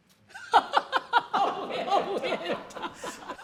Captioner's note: laughter